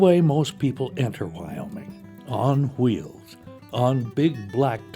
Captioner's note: voiceover